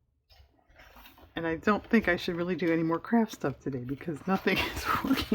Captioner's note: laughs